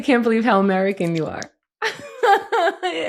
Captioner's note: laughs